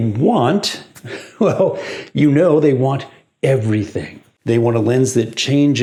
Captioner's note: laughs